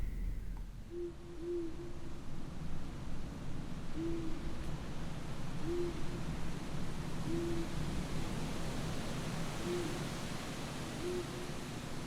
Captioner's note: sound of owl hooting, rustling wind